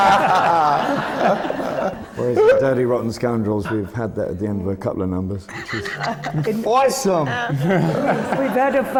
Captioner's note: laughter; does an american accent; laughter